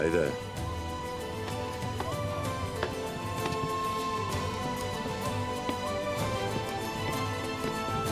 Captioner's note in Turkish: El vurma sesleri